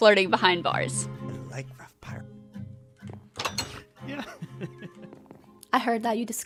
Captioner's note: laughs